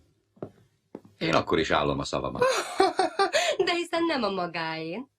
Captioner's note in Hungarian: Lola kacér nevetése